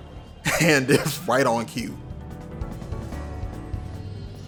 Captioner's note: laughing